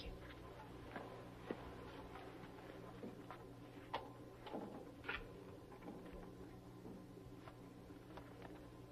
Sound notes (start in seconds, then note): 3.5 door closing